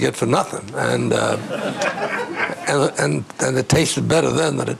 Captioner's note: all laughing